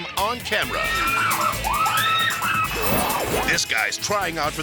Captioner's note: people screaming